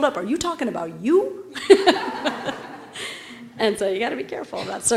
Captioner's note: laugh